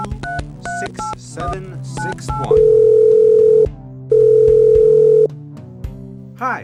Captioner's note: pauses while phone rings